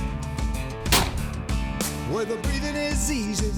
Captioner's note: gun shot